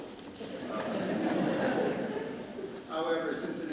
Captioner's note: audience laughs